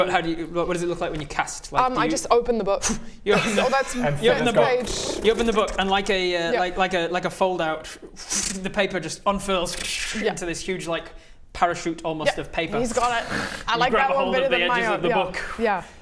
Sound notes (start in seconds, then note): 3.3 brrrr; 9.6 krtsshtsh